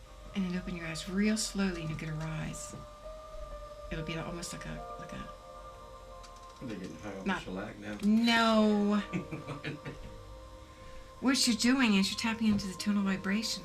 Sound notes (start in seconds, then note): 8.9 laughs